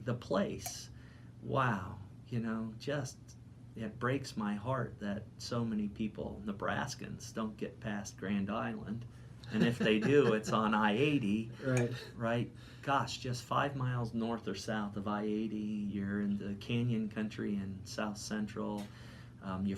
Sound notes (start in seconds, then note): 9.5 laughing